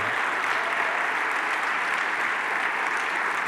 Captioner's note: applause